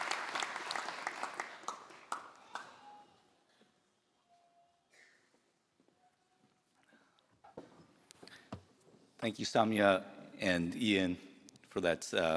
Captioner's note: applause